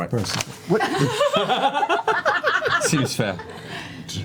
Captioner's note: laughter